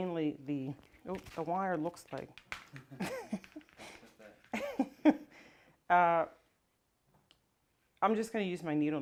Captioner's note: laughter